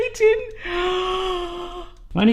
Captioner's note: gasping